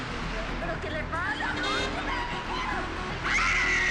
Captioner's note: woman screaming